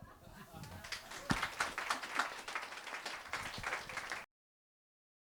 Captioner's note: applause